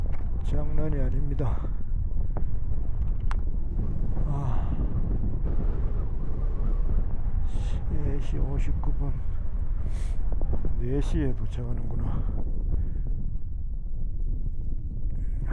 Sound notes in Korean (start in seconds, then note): 4.2 바람이 때리는 소리